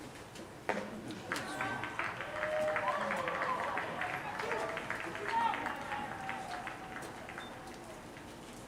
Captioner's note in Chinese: 棒球场欢呼声